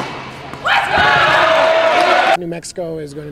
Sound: audience cheers

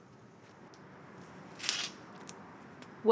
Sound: Crunch

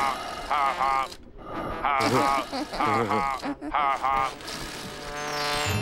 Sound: chuckles

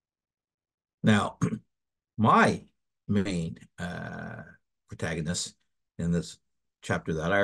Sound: cough

